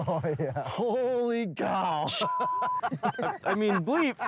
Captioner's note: beep